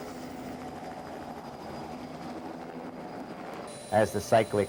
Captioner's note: helicopter rotor noise